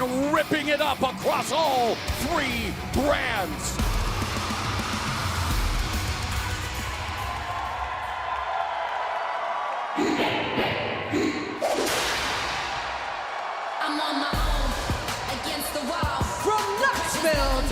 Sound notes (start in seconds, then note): 3.7 crowd cheering